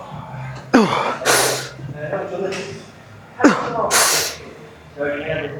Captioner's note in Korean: 한숨